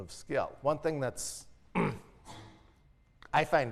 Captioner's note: cough